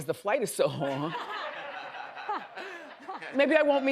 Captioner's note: audience laughs